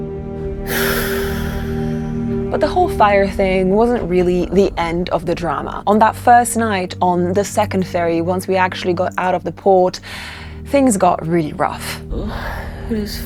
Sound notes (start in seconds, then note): 0.6 speaker exhales